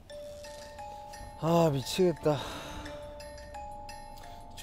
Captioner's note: just sighing away